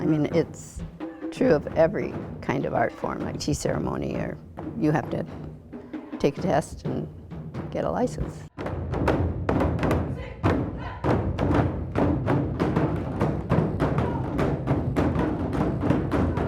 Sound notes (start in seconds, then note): 9.8 rhythmic drumming; 10.0 chanting